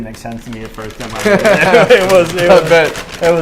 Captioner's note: laughs